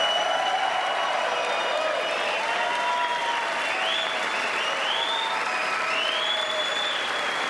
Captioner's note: applause